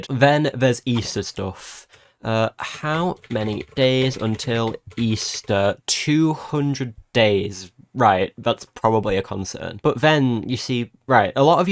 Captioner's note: typing